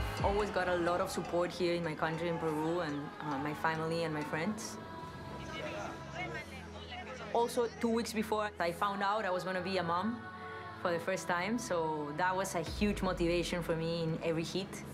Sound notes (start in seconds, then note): 4.8 in Spanish